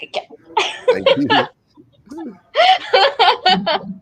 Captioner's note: laughing